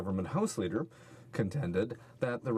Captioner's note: speaking french